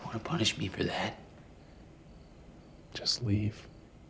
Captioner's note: crickets chirping